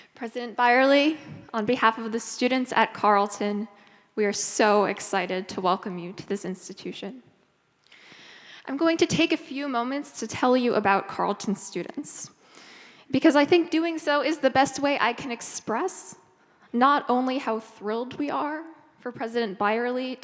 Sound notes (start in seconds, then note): none